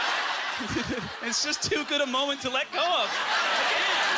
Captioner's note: audience laughter